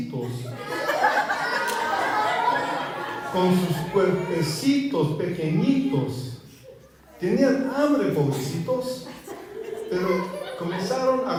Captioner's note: laughter